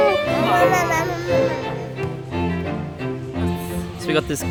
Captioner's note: baby mumbling